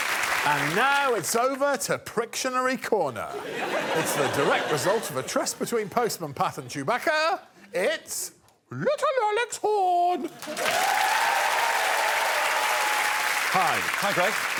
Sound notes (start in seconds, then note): 7.8 high-pitched voice; 10.3 cheering and applause